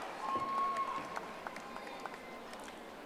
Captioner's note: audience applauding